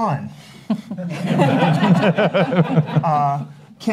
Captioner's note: laughs